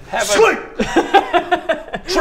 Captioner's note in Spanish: risas